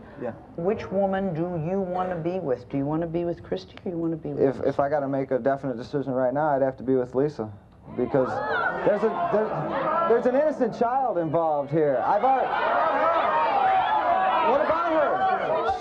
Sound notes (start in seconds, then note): 12.8 audience yells